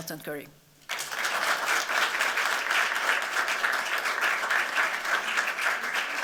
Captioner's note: applause